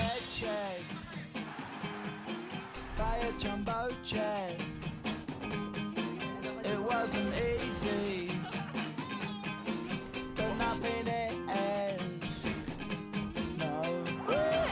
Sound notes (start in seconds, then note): 5.5 chatter; 7.8 laughter